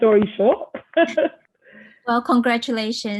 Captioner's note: laughs